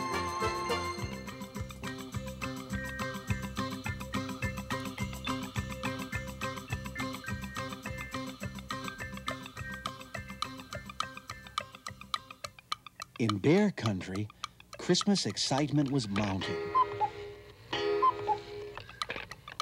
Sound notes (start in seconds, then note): 16.4 cuckooing